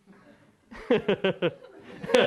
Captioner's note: laughter